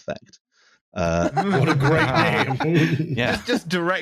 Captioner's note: more laughter